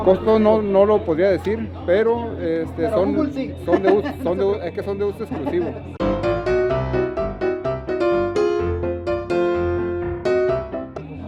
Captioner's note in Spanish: risas